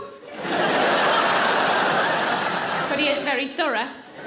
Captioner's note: audience laughing